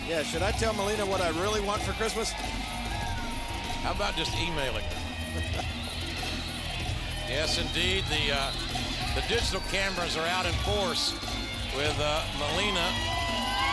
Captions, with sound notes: Yeah. Should I tell Melina what I really want for Christmas? How about just emailing her? (King laughs) Yes, indeed, the digital cameras are out in force with Melina.